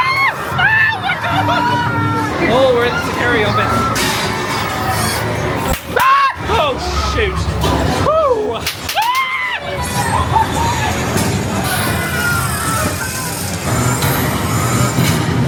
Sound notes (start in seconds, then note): 0.1 screaming; 4.1 machine cranking; 6.0 screaming; 8.1 sighs; 10.3 machine cranking; 10.3 spooky music